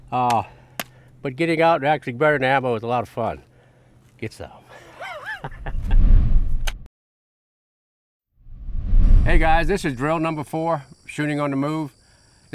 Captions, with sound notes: But getting out and actually burning ammo is a lot of fun. Get some. (chuckles) Hey, guys. This is drill number four, shooting on the move.